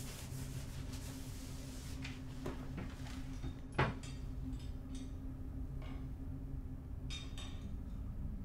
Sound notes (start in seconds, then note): 3.8 dishware clanging